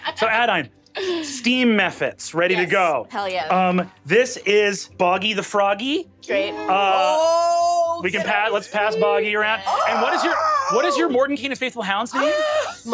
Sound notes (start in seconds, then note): 9.4 screeches in adoration